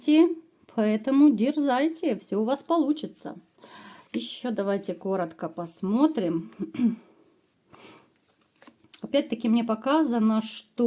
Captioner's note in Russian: откашливается